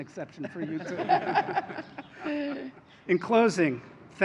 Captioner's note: laughter